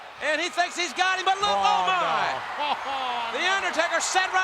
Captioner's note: chuckling